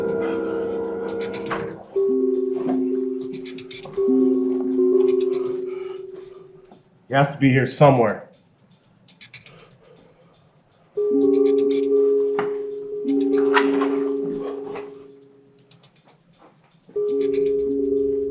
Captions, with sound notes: - He has to be here somewhere. (door creaks) (suspenseful music)